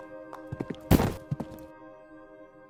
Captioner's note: books drop